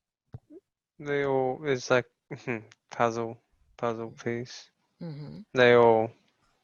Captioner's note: chuckles